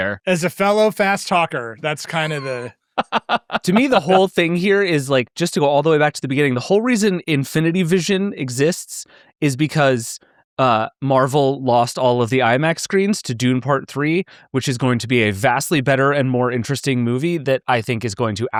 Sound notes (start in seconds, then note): 3.0 laughing